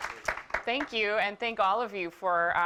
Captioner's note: applause